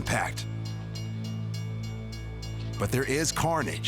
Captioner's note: bells dinging; suspenseful music